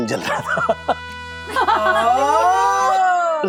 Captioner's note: laughs